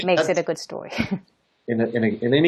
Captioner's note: chuckles